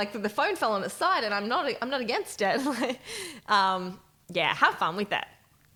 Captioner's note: chuckles